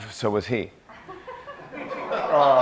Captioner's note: laughter